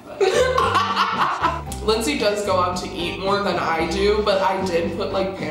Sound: laughs

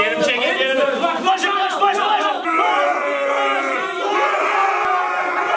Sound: all cheering and yelling

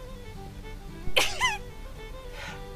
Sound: Billy sneezes

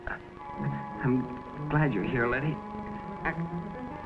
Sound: struggling

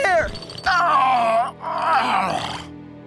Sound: groaning

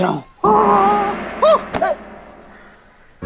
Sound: shrieking

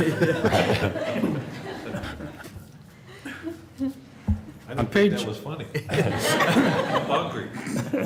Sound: laughter; laughter

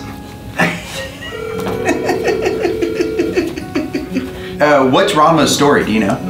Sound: laughs; phone ringing

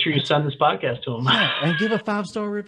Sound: laughing

